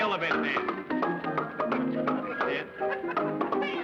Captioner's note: popping